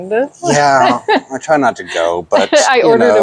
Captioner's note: laughs